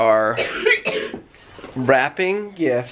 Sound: coughing

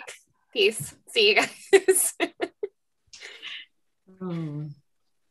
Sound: laughs

